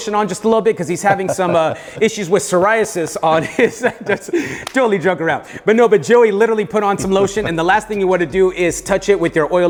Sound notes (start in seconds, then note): 4.6 both laughing